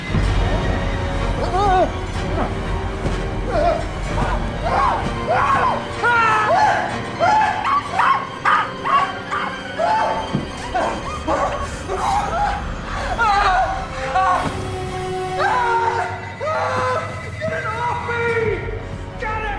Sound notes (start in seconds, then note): 1.7 screaming; 8.0 dog barking; 10.1 dramatic orchestral music; 10.1 screaming; 15.3 screams